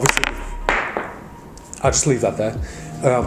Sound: poker chip clatters

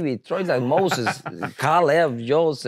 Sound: laughs

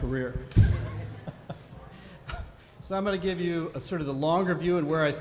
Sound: laughs

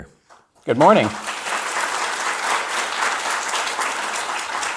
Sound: audience applauds

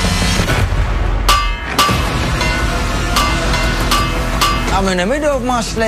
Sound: bangs pots and pans

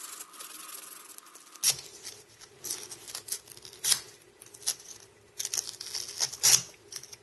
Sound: scraping

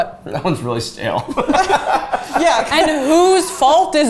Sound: laughing

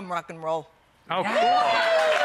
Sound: audience applauding

